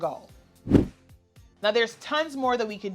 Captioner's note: air whooshes